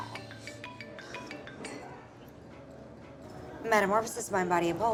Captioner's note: cell phone rings